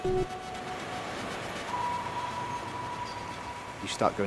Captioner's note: pensive music; water whooshing